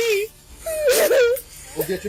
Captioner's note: cries